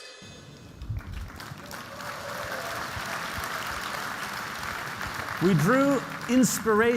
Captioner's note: applause